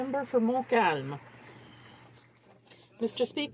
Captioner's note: some Applause